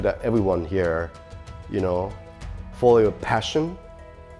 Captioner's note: none